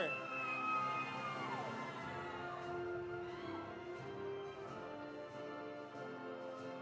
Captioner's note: audience cheering; audience applauding